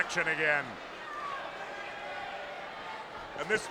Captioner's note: spectators cheering